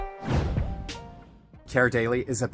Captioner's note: air whooshing